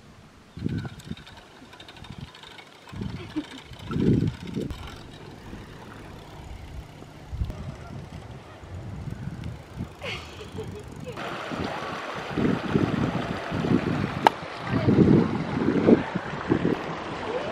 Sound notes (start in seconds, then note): 9.9 giggles; 11.1 water rushing